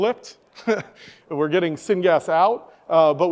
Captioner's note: chuckles